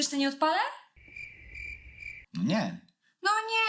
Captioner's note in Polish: cykanie owadów